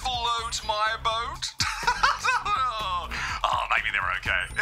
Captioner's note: laughs